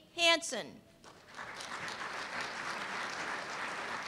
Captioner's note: applause